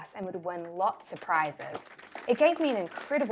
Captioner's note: clapping